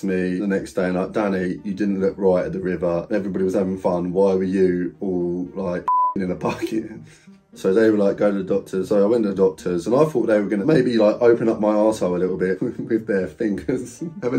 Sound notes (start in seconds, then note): 5.8 beep